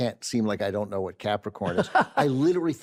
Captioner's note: carol laughs